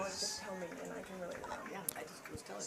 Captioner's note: indistinct chatter